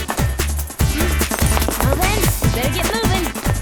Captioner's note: grunt; running footsteps